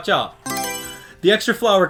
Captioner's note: Mario Selection Sound